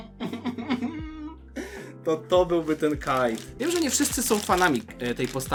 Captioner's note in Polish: śmiech